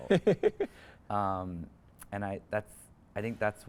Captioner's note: interviewer chuckles